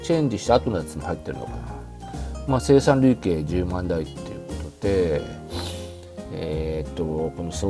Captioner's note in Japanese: 鼻息